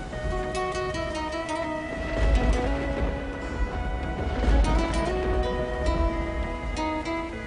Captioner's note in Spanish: Truenos